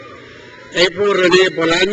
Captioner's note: crowd cheers